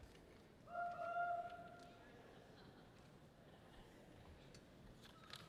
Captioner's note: person whoops loudly